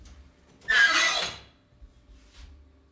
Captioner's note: creaks